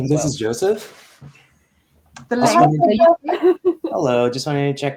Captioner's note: chatter